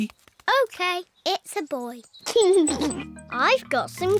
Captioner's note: giggles